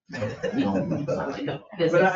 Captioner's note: people laugh